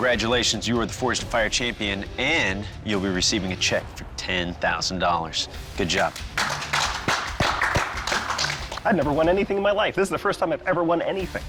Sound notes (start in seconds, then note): 5.9 applause